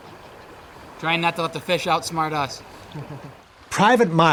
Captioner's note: giggles